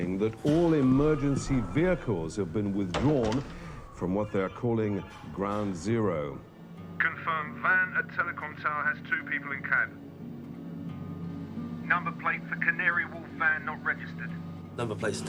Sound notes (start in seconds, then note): 7.2 man over phone